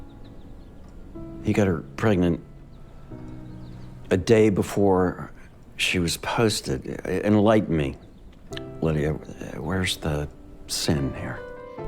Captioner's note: voiceover